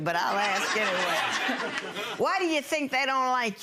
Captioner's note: audience laughing